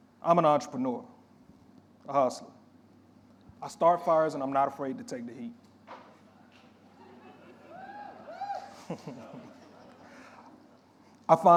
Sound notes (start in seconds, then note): 6.2 audience members chuckling and cheering; 8.6 chuckling